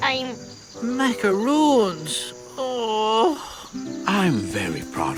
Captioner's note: moaning